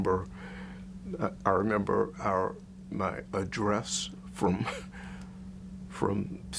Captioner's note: chuckles